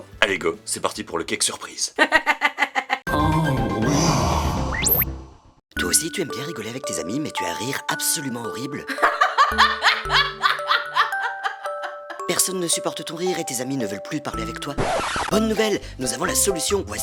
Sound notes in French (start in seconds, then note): 2.0 rires; 8.8 rire dégueulasse